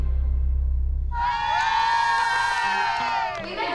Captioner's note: moms cheering